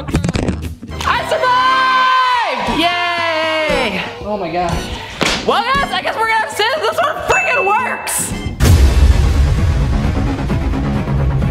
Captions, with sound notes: Oh, God. I survived. (celebrates loudly) Oh my god. Well, guys, I guess we're gonna have to say that this one fucking works. (upbeat music)